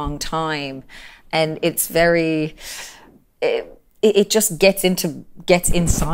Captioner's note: inhales